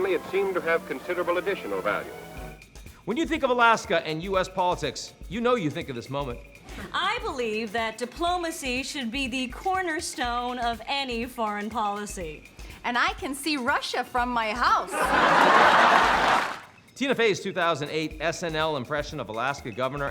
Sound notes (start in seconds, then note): 14.9 audience laughing